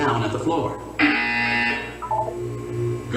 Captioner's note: buzzer sounds again